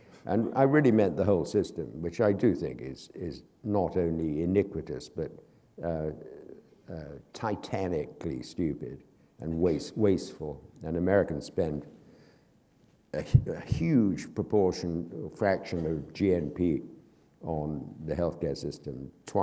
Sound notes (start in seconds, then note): none